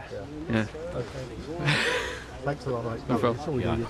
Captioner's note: he laughs